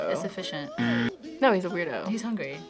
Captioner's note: buzzer rings